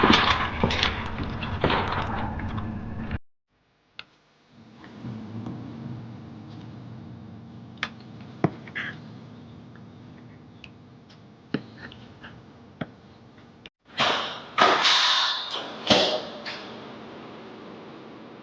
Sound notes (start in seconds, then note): 14.0 door clattering